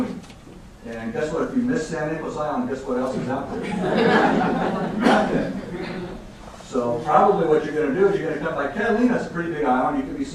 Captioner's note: laughing